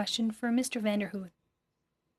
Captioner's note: speaking French